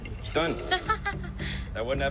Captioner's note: laughs